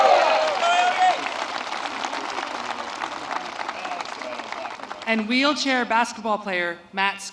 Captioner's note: applause